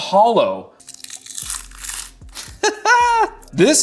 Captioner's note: skin fat crinkling; giggles